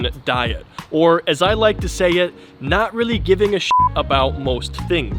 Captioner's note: beep